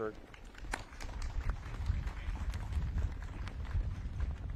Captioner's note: audience claps